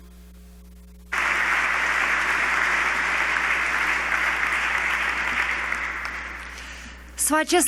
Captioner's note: applause